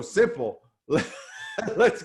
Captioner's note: laughing